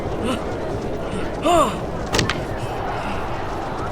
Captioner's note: מתנשף